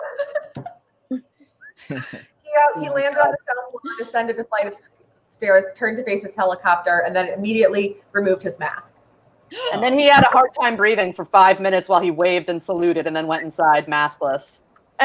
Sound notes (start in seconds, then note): 1.7 all chuckling; 9.7 gasps